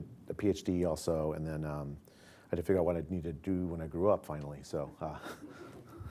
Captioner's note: laughter